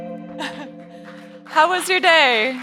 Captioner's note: chuckling